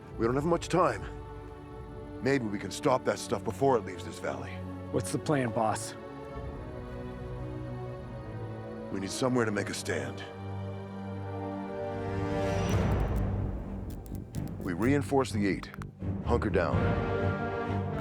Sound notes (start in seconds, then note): 12.3 dramatic music; 12.7 light buzzing